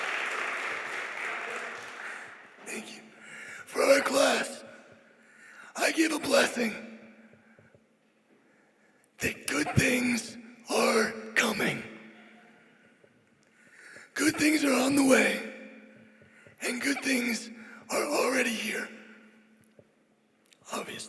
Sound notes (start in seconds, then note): 2.1 cheers